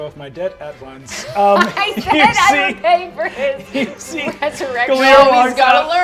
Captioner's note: laughs